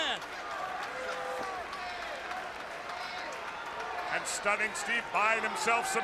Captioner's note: crowd chatter